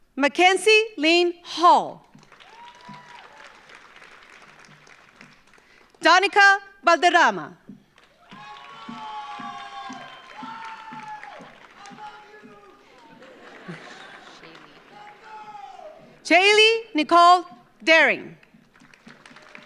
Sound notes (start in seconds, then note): 2.1 audience applauds; 7.9 audience applauds; 8.0 audience cheers; 13.5 audience laughs; 18.4 audience applauds; 18.8 audience cheers